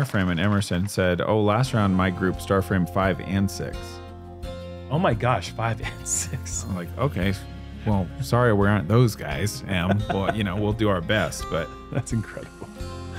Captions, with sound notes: and Emerson said, "Oh, last round my group star framed five and six." -Oh my gosh, five and six [chuckles]. -I'm like okay, "Sorry we're aren't those guys, but we'll do our best." -That's incredible.